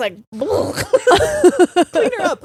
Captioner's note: both laughing